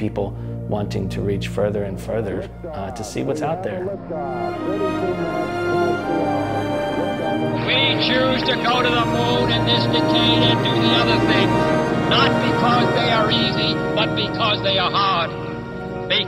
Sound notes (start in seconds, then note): 1.1 voice of ground control in background; 5.1 Voice of John F. Kennedy